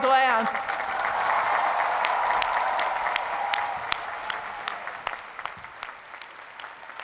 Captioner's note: cheering